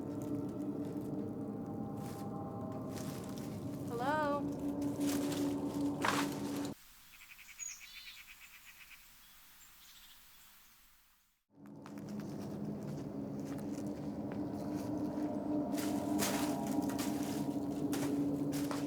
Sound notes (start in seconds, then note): 0.0 ominous music; 1.4 leaves crunch; 7.3 birds chirp; 11.6 ominous music; 11.8 leaves crunch